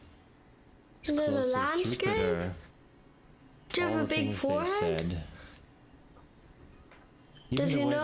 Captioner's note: child's voice